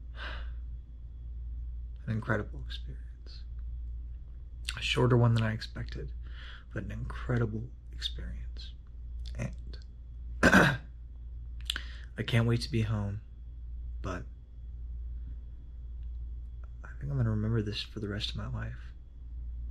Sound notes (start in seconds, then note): 0.2 sighs; 10.4 clears throat